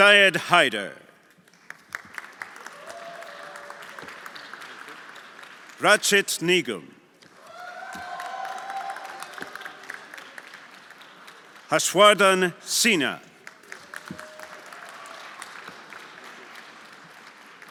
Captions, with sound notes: Seid Heider. (everyone applauding) Rachid Nigel. (everyone applauding) (audience cheering) Haswadan Sina. (everyone applauding)